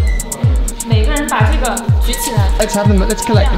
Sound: foreign language

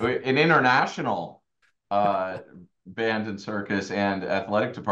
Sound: laughs

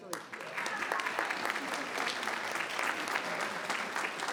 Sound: people clapping

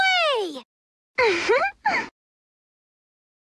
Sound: laughs

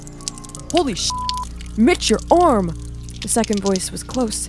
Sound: beep

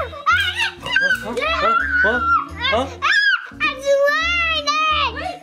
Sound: Adley screaming

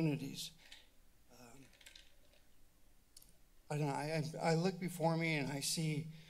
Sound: clicks tongue

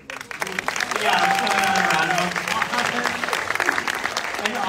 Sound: audience applauding

